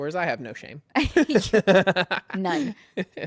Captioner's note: laughs